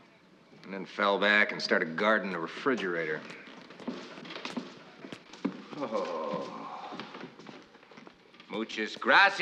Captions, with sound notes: And then fell back, and started guarding the refrigerator. [sighs] Muchas gracias.